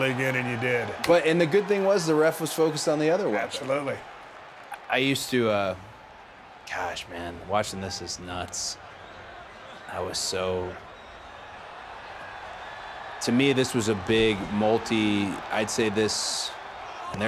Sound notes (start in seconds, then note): 12.0 audience cheering